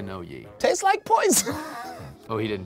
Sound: laughs

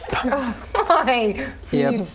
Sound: laughing

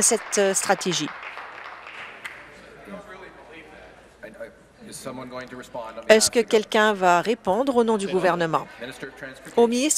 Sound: applause

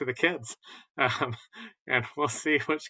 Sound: laughter

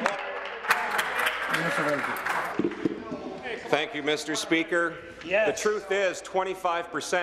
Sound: applause

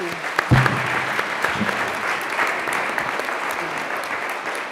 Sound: applause

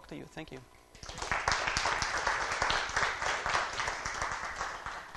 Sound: applause

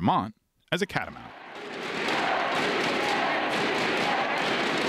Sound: crowd cheering

